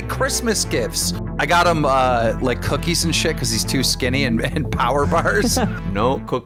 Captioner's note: laughs